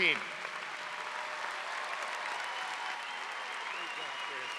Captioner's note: audience cheers